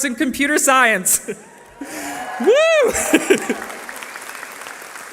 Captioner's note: cheering